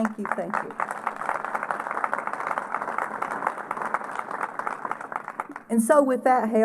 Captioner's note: applause